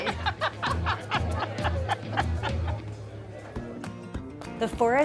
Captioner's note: laughing; upbeat music